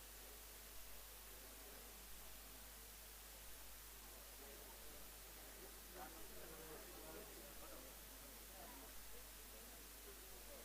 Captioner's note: background chatter